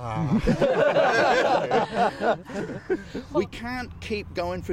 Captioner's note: archeologists laughing